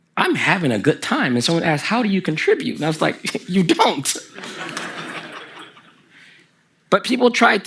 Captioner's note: the audience laughs